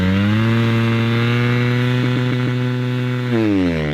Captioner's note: engine revving